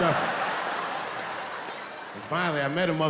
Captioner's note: laughing